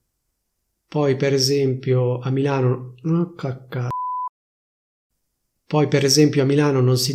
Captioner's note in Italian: beep